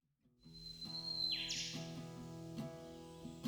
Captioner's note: birds singing; gentle acoustic music plays